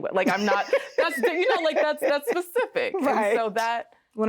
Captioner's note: laughing